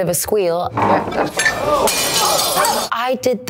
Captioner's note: glass smashing; patrons exclaiming